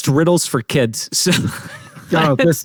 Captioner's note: laughs